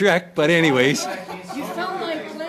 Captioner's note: laughter